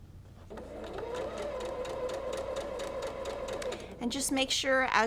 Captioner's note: machine whirring